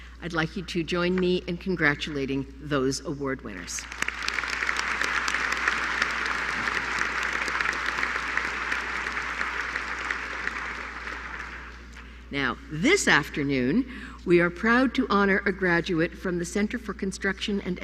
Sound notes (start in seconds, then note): 3.8 applause